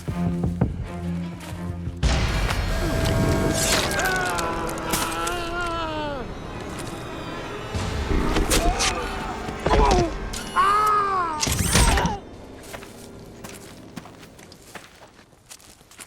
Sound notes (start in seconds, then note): 11.3 robot whirring mechanically